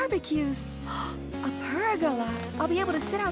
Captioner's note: gasps